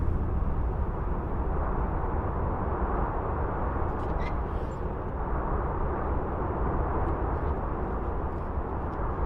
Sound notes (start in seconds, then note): 0.5 wind whistling continues; 3.8 metal squeaks